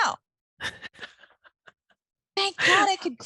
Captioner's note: laughing